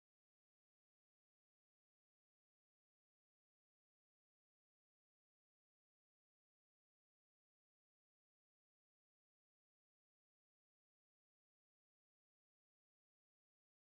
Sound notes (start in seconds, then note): none